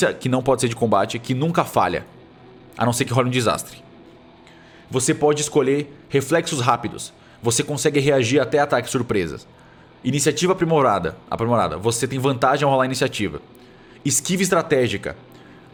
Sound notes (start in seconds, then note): none